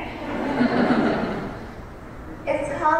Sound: laughter

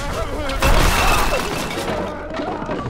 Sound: crashing, yelling continues; screaming, banging

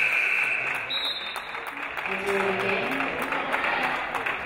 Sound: referee blows whistle; game buzzer buzzes

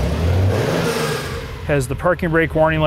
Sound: engine revs

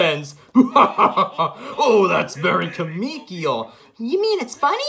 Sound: laughs

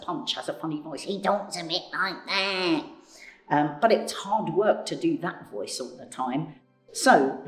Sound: raspy voice

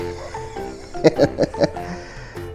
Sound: laughs

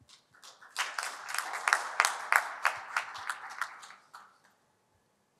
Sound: applause

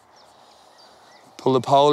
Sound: hisses

